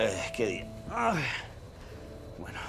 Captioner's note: groan